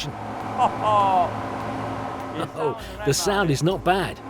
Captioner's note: host laughing